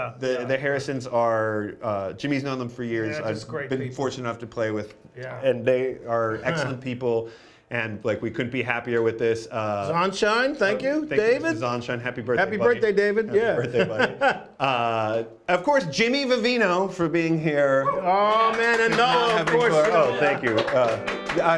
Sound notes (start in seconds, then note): 13.4 laughs; 18.2 applause